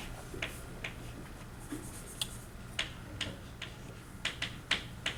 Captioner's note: chalk clicking on board